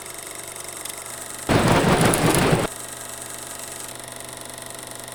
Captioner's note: static